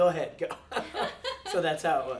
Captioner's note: laughing; chuckles